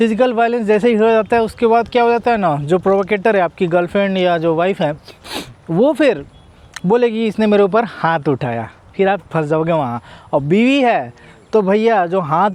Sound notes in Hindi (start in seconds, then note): 5.0 नाक से की जाने वाली आवाज़